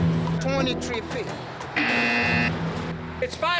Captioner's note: buzz